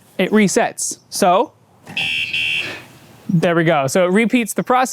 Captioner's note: beep beep